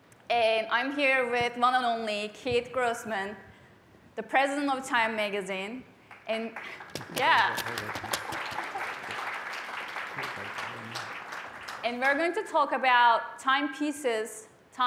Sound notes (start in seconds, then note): 6.5 applause